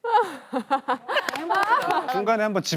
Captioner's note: claps